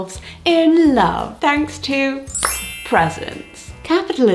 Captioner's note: bells ring; hands clap